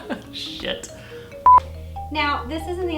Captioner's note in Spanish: bip